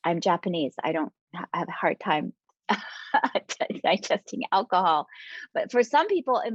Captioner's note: chuckling